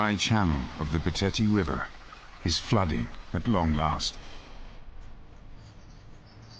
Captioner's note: birds chirping; dramatic music